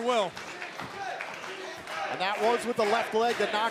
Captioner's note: crowd cheering